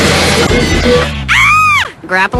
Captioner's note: Bonnie screams